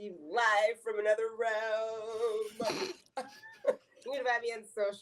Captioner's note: chuckles